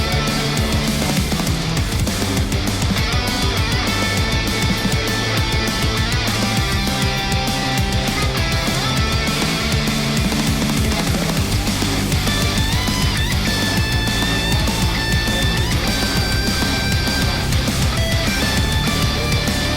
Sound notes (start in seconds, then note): 1.1 machines whirring